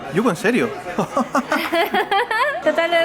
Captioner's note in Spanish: Se ríen